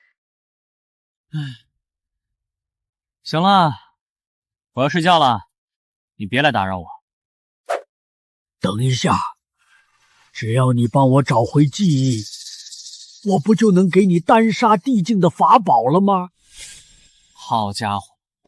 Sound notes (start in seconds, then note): 1.3 sigh